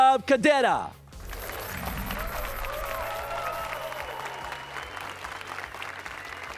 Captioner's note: applause and cheers